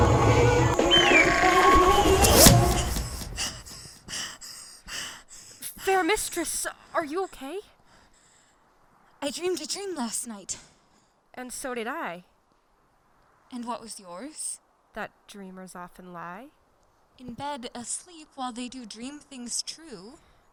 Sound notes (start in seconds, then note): 0.0 animal growling; 1.2 whoosh; 2.5 panting